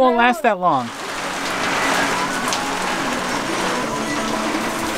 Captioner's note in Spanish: fuerte lluvia cae sonidos